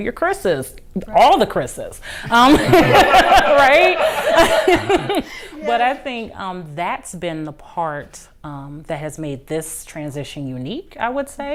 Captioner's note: laughter